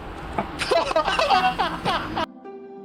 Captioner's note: laughing